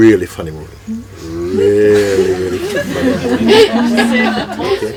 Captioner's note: laughter